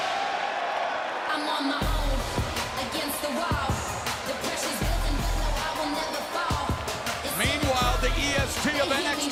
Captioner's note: crowd cheering